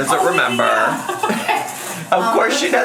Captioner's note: laughs